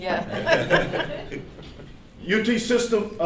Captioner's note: laughing